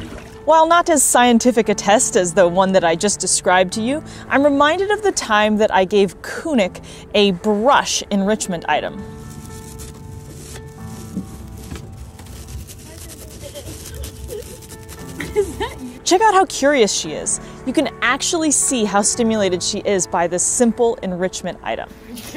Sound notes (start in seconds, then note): 9.5 background music; 9.5 quiet soft scratchy noise